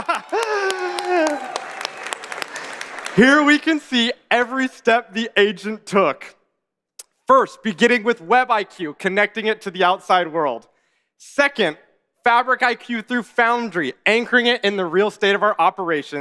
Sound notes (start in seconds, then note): 4.4 applause